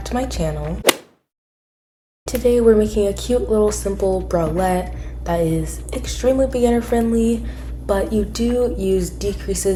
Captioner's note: golf hit sound effect